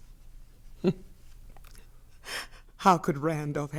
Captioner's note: chuckles dryly